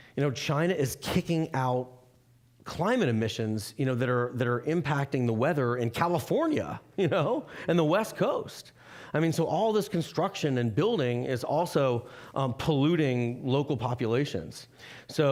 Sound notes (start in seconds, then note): 7.3 laughing